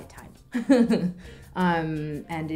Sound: laughs

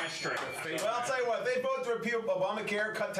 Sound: bell rings

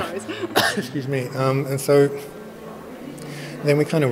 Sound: sneezes

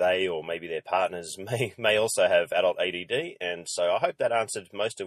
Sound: laughs

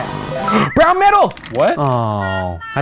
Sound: gasping

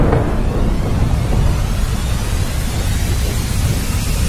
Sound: scary sounds

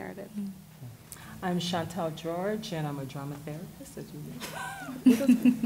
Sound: whispered; laughter and chatter; laughs

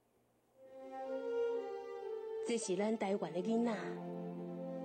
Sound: speaking chinese

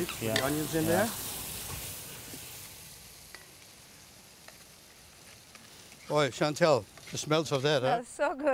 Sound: sizzling

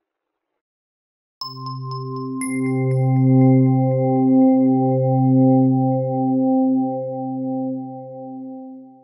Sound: bell tone

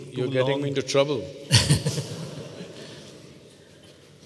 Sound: Prakash Padukone laughs

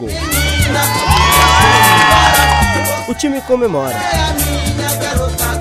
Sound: crowd cheering

